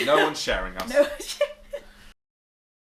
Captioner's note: laughing